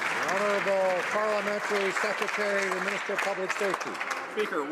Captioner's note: some Applause